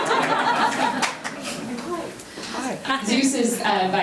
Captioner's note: members laughing